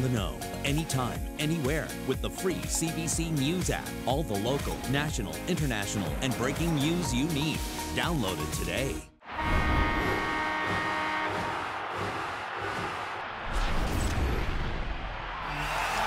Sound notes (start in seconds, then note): 9.2 goal horn; 10.1 crowd cheering